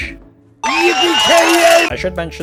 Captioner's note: excited noises